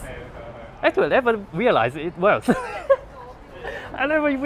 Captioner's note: laugh